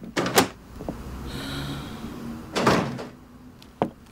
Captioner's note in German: Seufzen